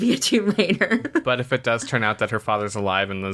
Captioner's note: laughs